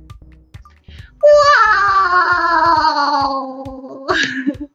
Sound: imitates spongebob laugh

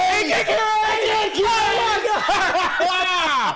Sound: satisfied laughter

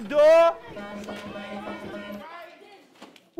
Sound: bell rings

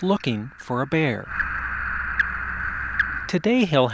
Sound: sound of radio-collar signals …beep, beep, beep…

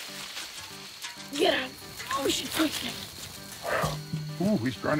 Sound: grunting

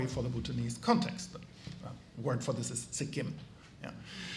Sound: speaks foreign language

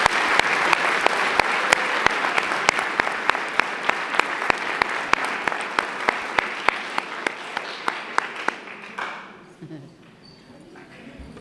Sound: applause

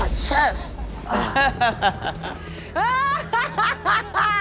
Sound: laughs

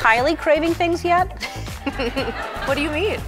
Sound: laughter

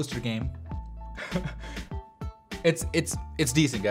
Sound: chuckles

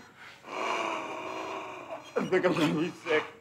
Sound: Donald gasps

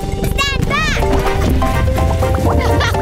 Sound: boom!; bubbling

